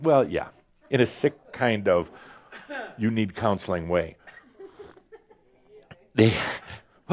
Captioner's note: a few giggles